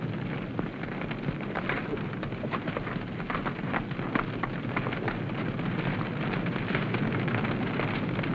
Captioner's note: fire crackling